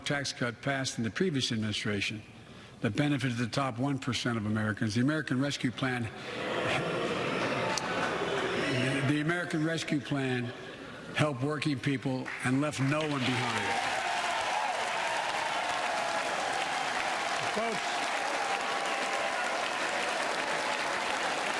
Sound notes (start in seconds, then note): 9.3 booing; 16.3 cheers and applause